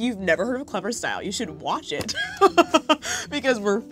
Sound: laughs

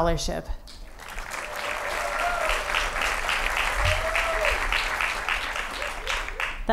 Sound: applause

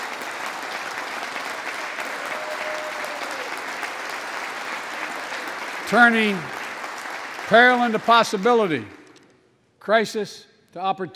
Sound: applause

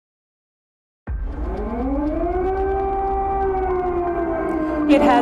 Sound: sirens blaring

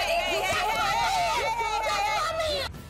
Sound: yelling

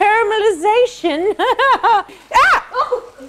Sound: laughs

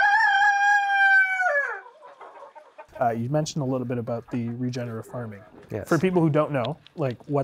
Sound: rooster crowing

